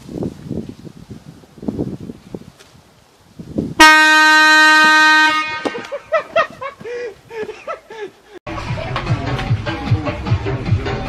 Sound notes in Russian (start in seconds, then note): 3.8 Гудок; 5.7 Смех